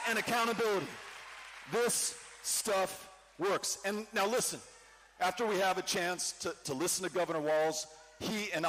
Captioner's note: cheering